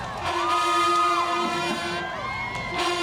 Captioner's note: crowd cheers, brass band plays